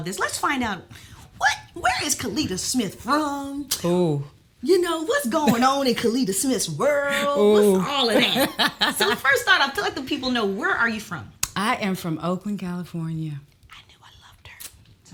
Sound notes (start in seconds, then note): 7.9 Kellita laughs